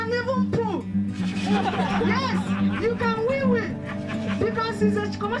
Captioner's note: laughter